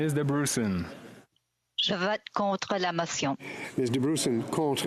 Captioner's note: speaking French